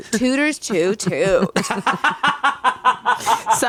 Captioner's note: everyone laughs